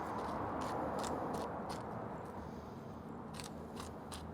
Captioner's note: pepper grinding